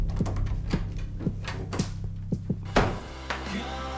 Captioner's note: door slams shut